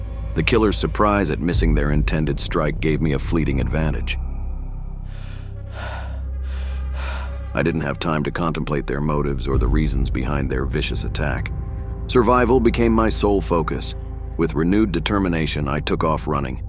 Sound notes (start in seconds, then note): 5.0 gasping